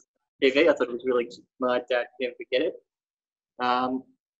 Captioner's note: audio distorts